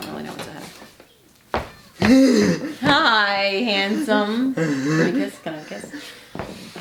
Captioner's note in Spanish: vocaliza